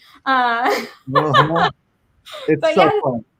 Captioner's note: panelists laugh